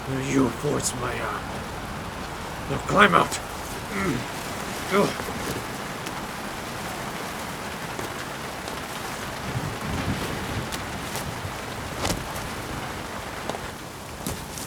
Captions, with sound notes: You forced my hand. Now climb out! (grunting) (thunder rumbling)